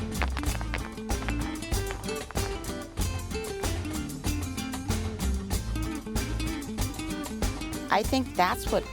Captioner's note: shoes tapping